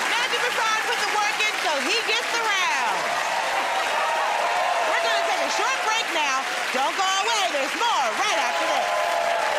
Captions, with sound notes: Matthew Broussard put the work in, so he gets the round. [ Cheers and applause ] We're gonna take a short break now. Don't go away, there's more right after this.